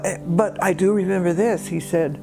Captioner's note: none